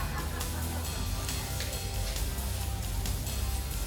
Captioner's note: crowd laughing